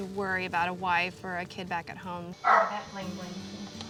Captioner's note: dog barks